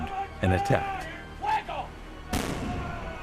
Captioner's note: yelling in Spanish